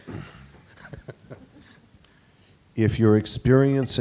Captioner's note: laughs